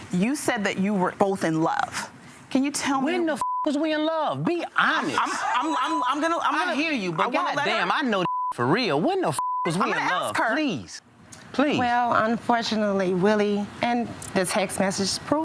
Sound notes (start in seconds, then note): 3.4 beep; 8.2 beep